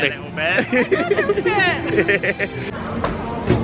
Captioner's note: laughter